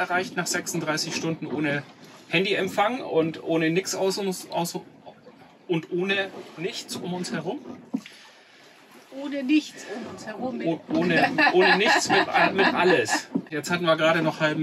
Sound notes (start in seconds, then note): 11.1 laughs